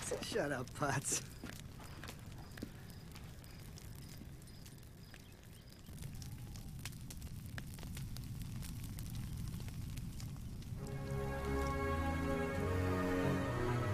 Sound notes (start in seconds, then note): 6.4 fire crackling; 10.9 energetic music